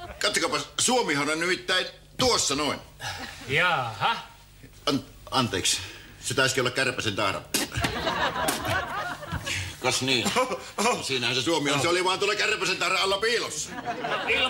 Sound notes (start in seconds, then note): 9.6 nervous finnish laughter